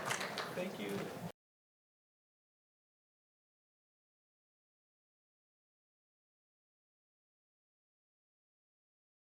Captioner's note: applause